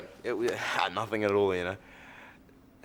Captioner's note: stammers